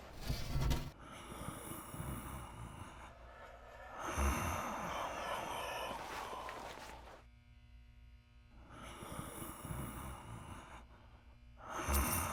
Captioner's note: mimic breathing